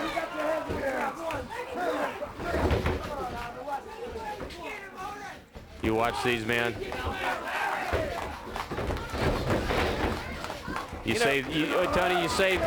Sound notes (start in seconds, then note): 2.1 crowd chatter